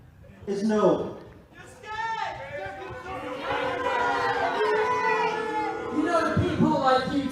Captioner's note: crowd boos